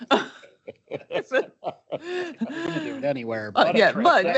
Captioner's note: chuckle